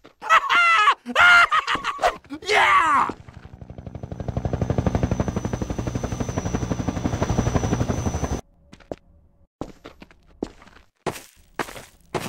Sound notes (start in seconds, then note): 0.2 laughs; 4.1 Combine Hunter Chopper Flies Overhead